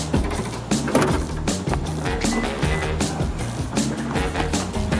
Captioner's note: trunk Shutting